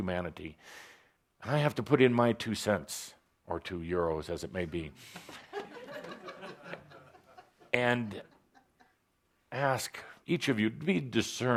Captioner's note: laughter